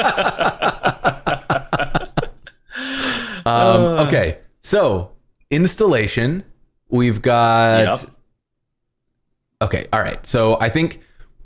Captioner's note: laughter